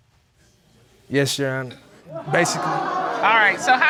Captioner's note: audience exclaims